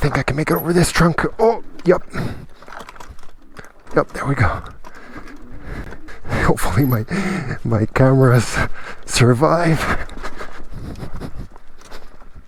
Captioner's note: giggle; chuckle